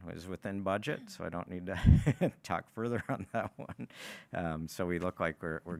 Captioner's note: laughs